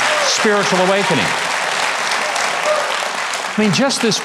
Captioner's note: audience claps